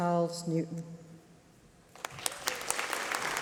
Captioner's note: applause